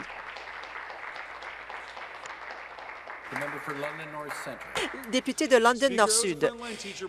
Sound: speaking Alternate Language; applause

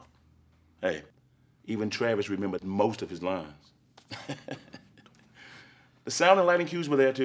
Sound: laughs

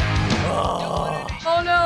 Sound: punk rock music; groaning

